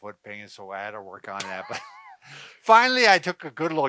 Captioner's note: laughing